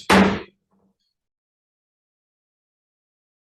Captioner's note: banging gavel